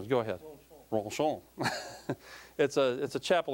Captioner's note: laughing